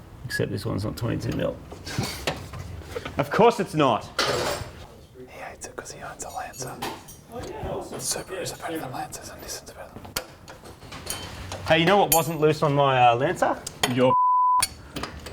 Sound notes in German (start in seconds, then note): 2.1 lacht; 5.0 Flüsternd; 14.1 Pieep